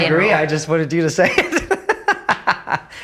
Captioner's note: laughing